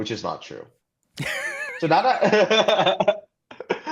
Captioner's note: laughter